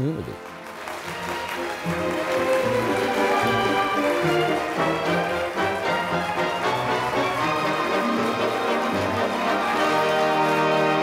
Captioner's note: applause